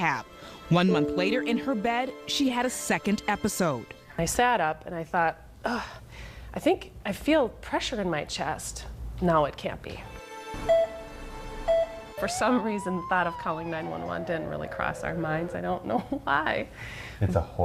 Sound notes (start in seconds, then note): 11.6 heart monitor beeps